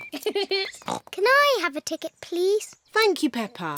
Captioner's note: giggles; oinks